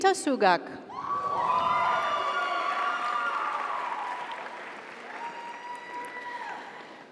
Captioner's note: audience cheers; audience applauds